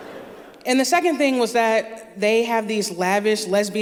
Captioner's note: laughter